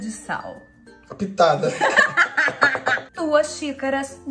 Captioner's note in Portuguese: Risos